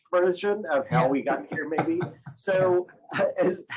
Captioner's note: laughter